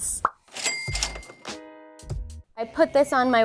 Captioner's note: cash register opening